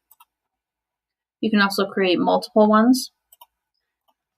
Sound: typing

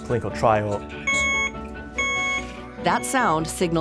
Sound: device beeping

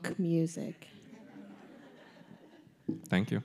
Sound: audience laughing

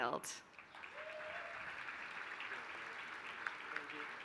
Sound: applause

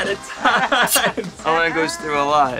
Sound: laughing; flint sparking

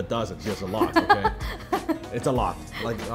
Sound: laughs

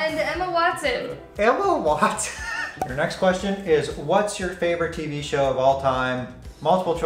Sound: laughs

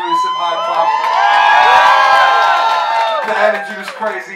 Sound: crowd cheers

